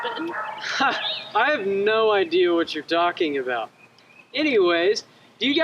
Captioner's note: laughs